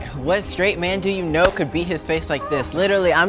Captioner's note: claps